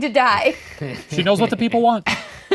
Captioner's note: laughing